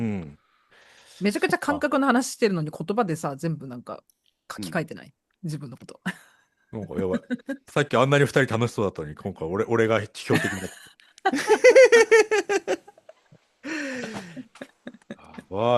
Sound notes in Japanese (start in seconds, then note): 11.3 笑い